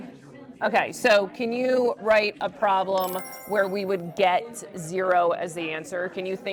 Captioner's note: chime